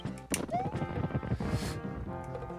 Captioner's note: inhaling